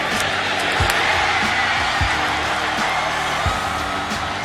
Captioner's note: cheering